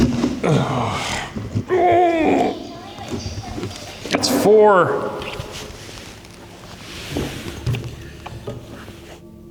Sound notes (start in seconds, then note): 0.4 grunts; 5.1 fabric shuffling